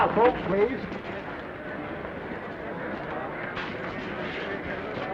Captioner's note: attendees chattering